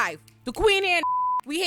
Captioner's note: beep